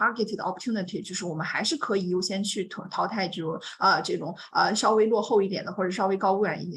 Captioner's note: speaks Mandarin; continues speaking in Mandarin